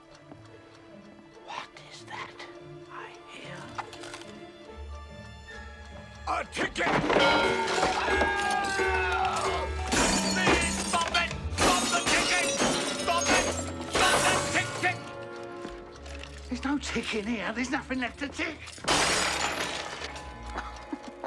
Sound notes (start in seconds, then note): 7.1 clocks tolling, chiming, and cuckooing; 20.5 laughing